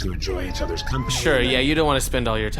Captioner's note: muttered